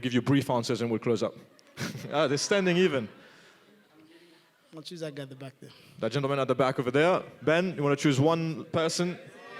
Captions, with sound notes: will give you brief answers, and then we'll close up. (laughing) They're standing even. - I want to choose that guy in the back there. - That gentleman at the back over there. Ben, you want to choose one person?